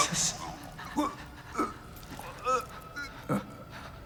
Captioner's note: man grunting